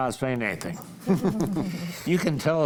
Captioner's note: group laughs